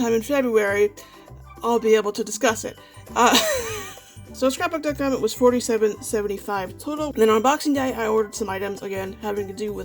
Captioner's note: laughs